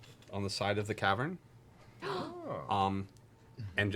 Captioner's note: gasps